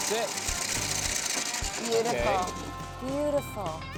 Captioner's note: corn rattling in hopper